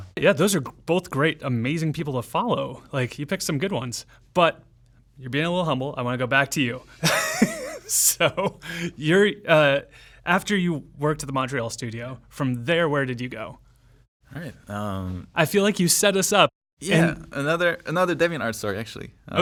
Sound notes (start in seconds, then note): 7.0 laughs